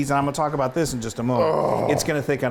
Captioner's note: groans